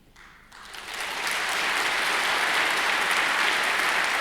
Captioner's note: audience applauds